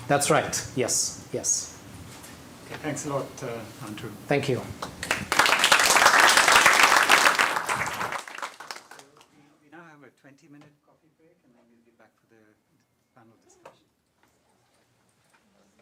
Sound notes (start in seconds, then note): 4.8 applause